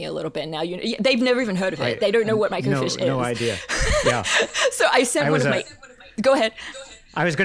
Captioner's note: laughs